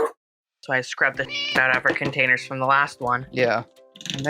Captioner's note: meow